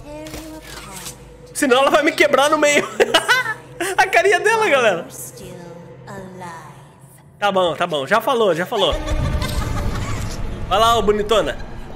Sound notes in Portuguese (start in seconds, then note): 2.8 risos